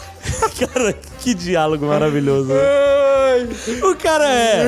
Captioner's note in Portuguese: risos